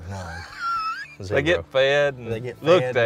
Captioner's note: laughing